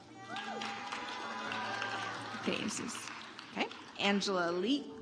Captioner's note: audience applauds